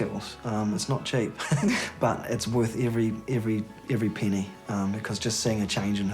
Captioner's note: chuckles